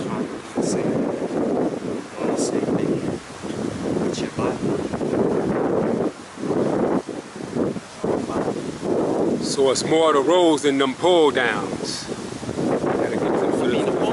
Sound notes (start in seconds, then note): 2.0 wind blowing; 5.1 wind blowing; 13.6 wind howling